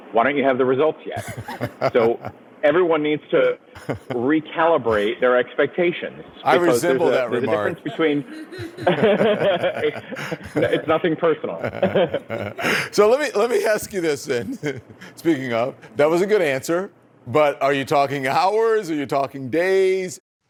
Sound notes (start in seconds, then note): 1.2 don lemon laughs; 8.4 both laugh